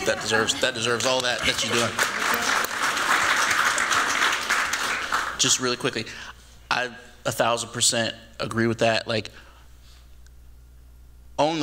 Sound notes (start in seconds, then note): 1.9 applause